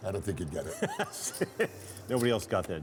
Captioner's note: laughter